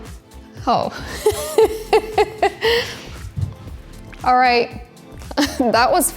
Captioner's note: chuckles